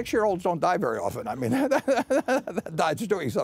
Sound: laughter

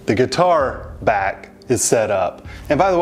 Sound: huffs

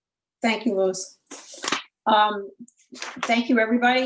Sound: papers ruffles

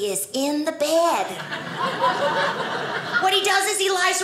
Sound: audience laughing

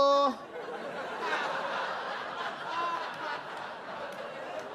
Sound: audience laugh

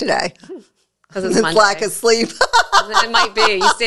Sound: laughs

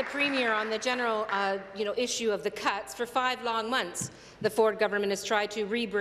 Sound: applause

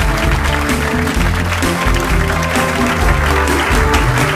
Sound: upbeat music; audience applauds

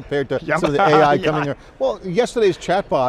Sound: laughs

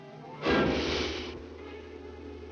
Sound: Nadya gasps; dramatic music

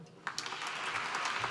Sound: applause

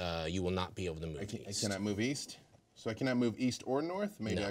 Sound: none

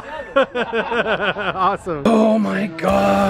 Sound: laughs

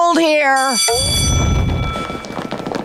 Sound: bell ringing

